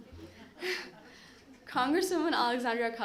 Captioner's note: laughter